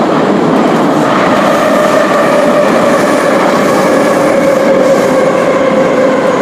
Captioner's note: braking - arrival at the station